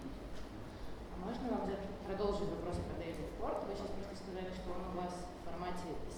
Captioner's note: speaking in foreign language